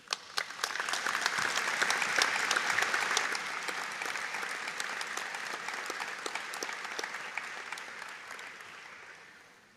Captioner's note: audience Applause